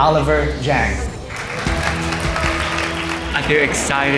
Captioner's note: applause